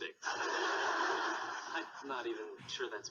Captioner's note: audience laughing